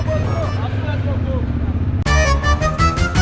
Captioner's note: motorcycle engine roaring; upbeat music